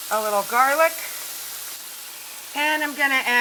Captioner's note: food sizzling